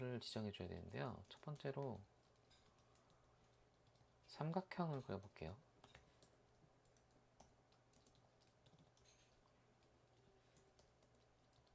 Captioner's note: typing hard